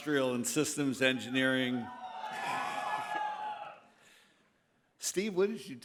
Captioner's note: cheers